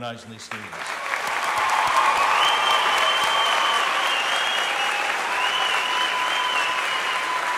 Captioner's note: audience applauding; audience cheering